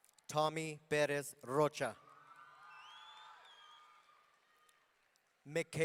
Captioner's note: audience cheering